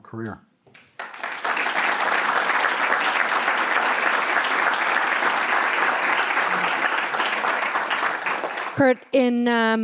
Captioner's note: applause